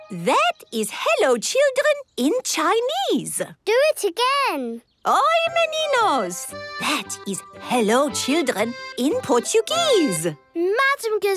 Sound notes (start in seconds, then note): 5.0 speaking Portuguese